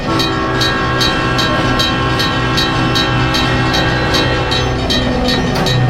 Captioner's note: SP Cab Car horn, couplers clanking